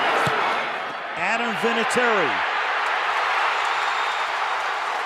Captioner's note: cheering